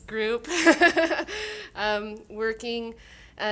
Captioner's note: laughing